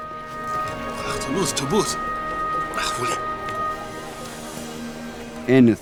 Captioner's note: merchant speaking in foreign language